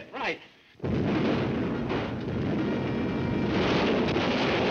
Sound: artillery firing

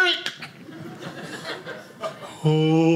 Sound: audience laughing

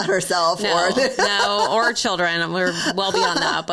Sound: laughing

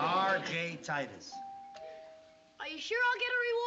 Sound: rings doorbell

